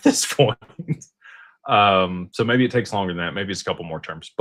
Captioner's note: laughter